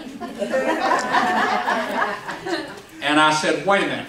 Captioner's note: laughs